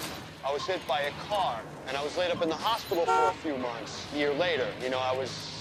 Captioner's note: car horn honks